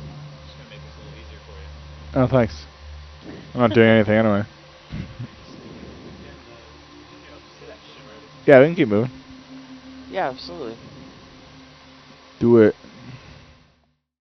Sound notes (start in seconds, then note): 5.7 researchers indistinctly chattering